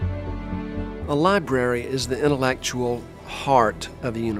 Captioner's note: voiceover